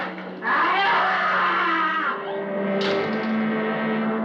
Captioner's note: screams